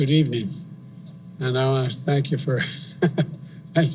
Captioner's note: laughs